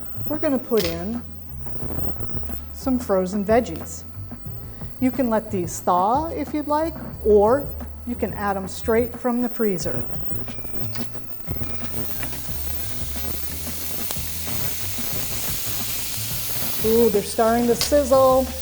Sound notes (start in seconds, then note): 12.2 veggies sizzling